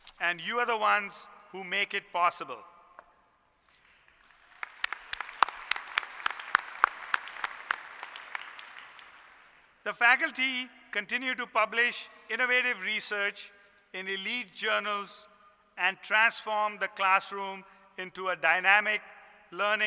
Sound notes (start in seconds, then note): 3.7 applause